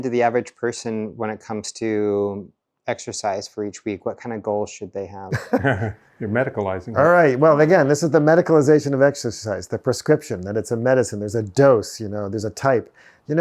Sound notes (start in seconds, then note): 5.3 chuckles